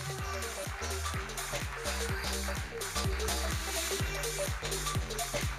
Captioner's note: electronic dance music; audience applauding; electronic dance music